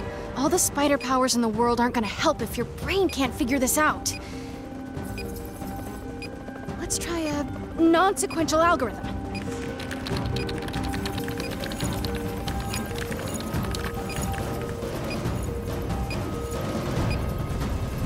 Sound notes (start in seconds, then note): 5.1 beeping; 9.3 keys clacking; 14.3 beeping